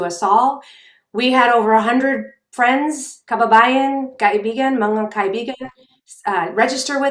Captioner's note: speaking in foreign language